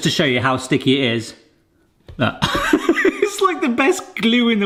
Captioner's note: laughs